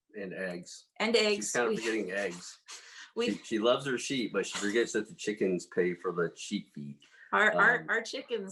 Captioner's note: laughs